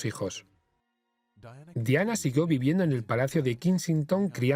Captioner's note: voiceover